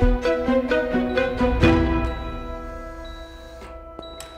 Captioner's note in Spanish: Suenan pitidos